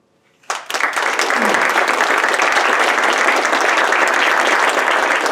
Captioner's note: audience clapping